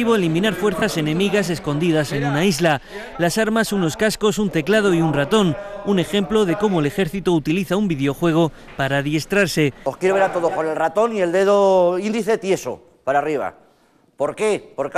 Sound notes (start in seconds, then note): 7.2 spanish